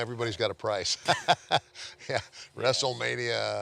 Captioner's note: laughing